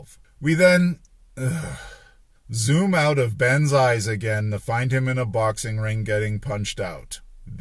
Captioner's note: sigh